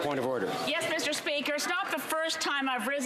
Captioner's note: speaking French